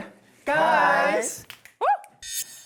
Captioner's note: Real Guys finger snap sound